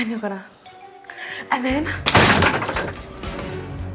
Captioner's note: crack!